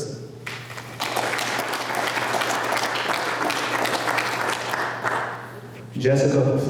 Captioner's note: applause